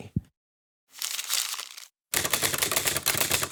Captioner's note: paper crumples; typing